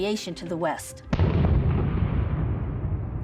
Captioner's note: booming